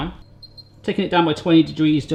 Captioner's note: beeping